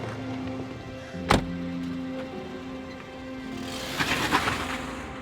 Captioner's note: door closing; engine revving